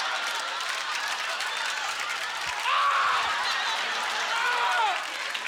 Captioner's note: applause; yelling